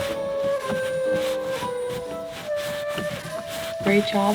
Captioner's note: creepy music continues; rustling; creepy music fades